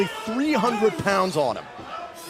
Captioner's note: crowd chatter